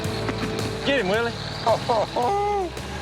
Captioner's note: laughter